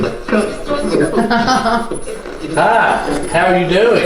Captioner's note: laughs